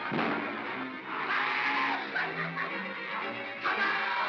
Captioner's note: Bo Peep screams; banging & growling; suspenseful music; Barnaby yells & laughs